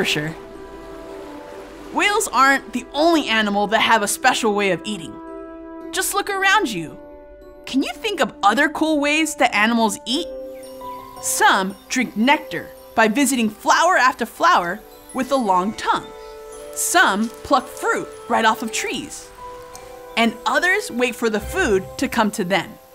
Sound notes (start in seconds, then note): 0.0 blow hole splashes; 10.3 bird chirping